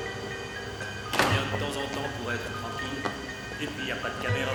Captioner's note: door closes